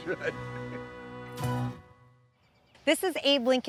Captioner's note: laughs